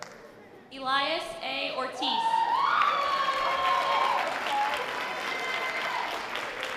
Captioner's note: sustained audience applause